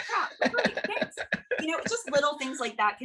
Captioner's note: laughs